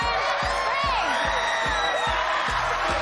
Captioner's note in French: screaming